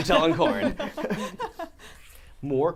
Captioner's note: all laughing